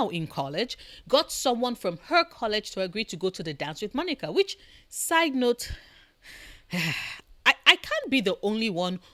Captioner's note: sigh